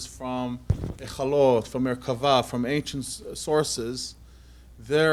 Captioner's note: non-english